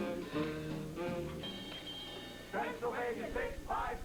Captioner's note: bell rings